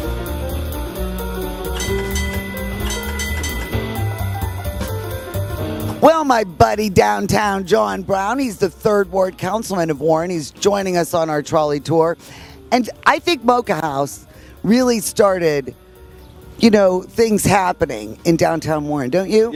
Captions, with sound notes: (Rings trolley bell) - Well, my buddy downtown John Brown, he's the Third Ward Councilman of Warren. He's joining us on our trolley tour and I think Mocha House really started things happening in downtown Warren, don't you?